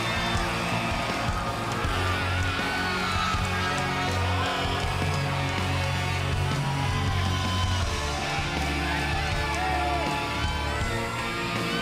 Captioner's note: crowd cheering